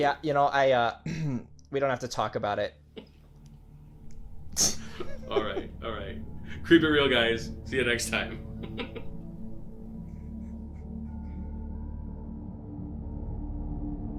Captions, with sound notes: Yeah, um you know. I, we don't have to talk about it. (laughing) All right, all right. Creep it real guys. See you next time.